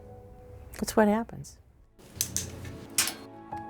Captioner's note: light switch clicks, door squeaks